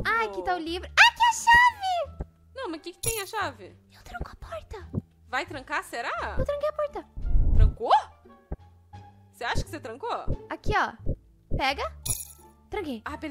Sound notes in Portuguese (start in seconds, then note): 3.9 sussurrando